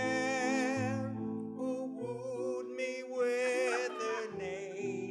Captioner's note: laughter